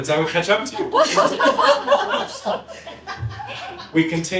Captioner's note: laughter